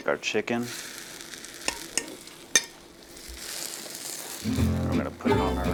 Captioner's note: utensils thudding